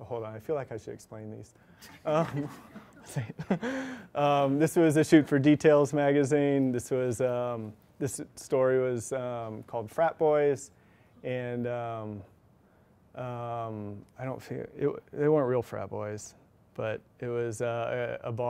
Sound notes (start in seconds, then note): 1.8 chuckles